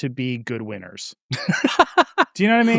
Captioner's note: laughing